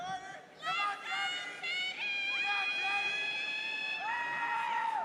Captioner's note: audience members cheering